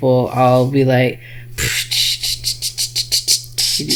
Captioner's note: imitates whistling